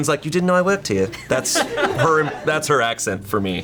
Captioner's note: colleagues laughing